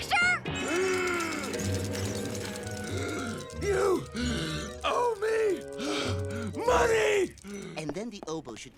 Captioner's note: out of breath